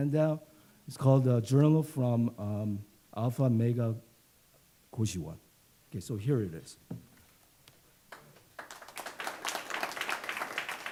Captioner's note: clapping